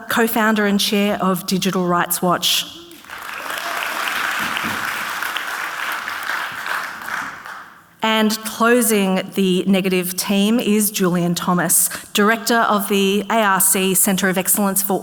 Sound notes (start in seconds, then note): 2.9 audience clapping